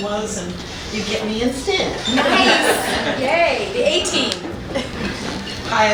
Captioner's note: laughter